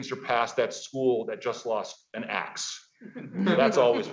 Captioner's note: audience laughing